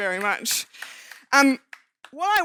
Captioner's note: audience clapping